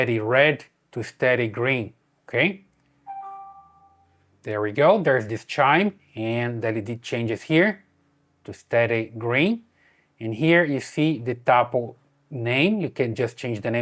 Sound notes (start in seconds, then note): 3.0 bell ringing